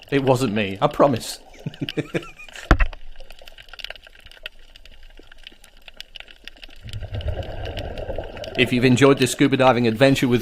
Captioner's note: laughs